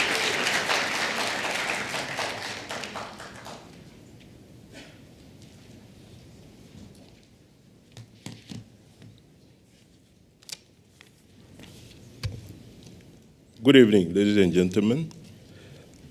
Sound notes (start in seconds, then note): 2.1 applause